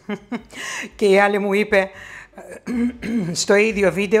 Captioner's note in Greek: Γέλιο